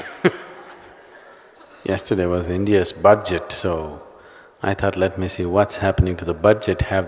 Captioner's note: laughs